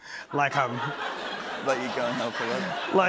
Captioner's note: laughter